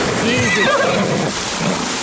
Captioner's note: horse Neighing